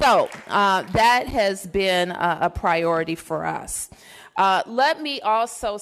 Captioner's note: applause